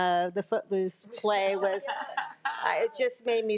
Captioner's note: crowd laughing